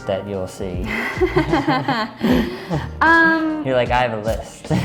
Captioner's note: both laugh